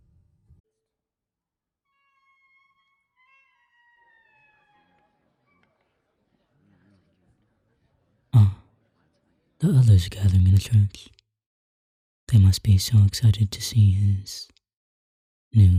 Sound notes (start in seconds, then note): 1.2 Faint sound of church door opening; 5.0 faint murmur of crowd